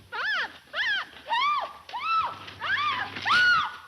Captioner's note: Mary screaming